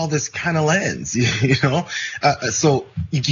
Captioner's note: laugh